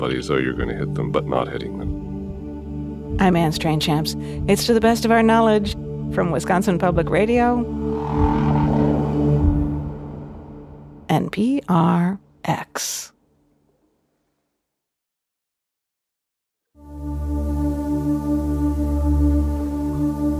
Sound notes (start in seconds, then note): 7.6 whale call rumbling; 7.9 soft music; 11.0 music ending; 16.8 soft music